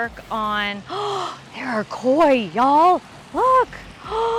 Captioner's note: gasps